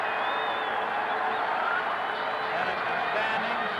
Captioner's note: cheers and applause